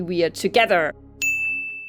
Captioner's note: ding